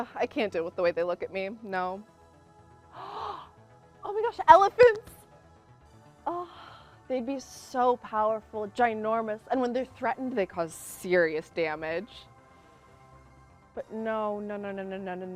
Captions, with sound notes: I can't deal with the way they look at me, no. (gasps) Oh my gosh, elephants. They'd be so powerful, ginormous. And when they're threatened, they cause serious damage. But no, no, no, no, no, no.